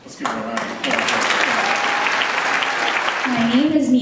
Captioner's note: applause